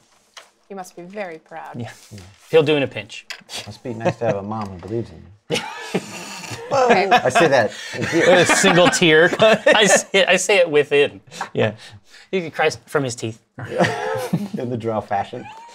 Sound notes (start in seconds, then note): 5.4 laughter; 13.6 laughter